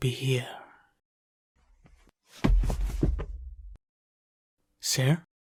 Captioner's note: sound of stumbling